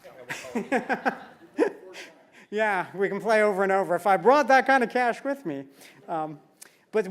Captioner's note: laugh